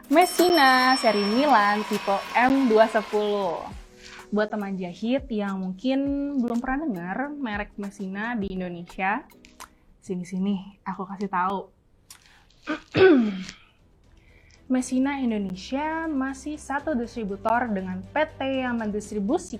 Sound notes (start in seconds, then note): 12.7 clears throat